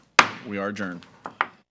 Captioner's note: gavel clacks